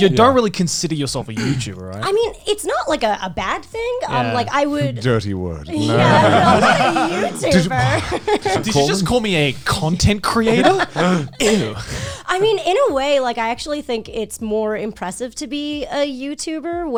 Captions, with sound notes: - But you don't really consider yourself a YouTuber, right? - I mean, it's not like a bad thing. - Dirty word. (guys laughing) - I'm not a YouTuber! (laughs) - Did you just call me a content creator? Ew! - I mean, in a way, I actually think it's more impressive to be a YouTuber,